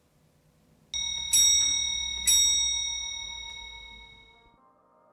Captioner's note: bell chimes